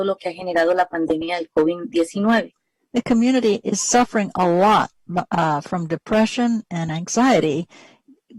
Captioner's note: speaking spanish